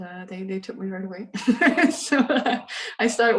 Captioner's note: laughs